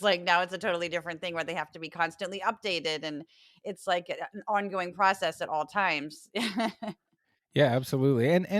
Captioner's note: laugh